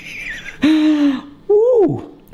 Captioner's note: laughing